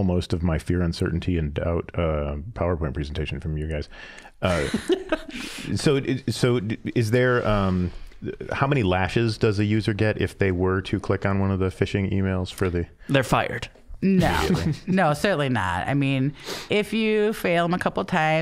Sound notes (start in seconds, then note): 4.5 laughing; 14.0 all laughing